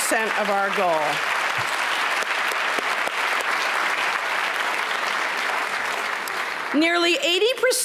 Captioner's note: applause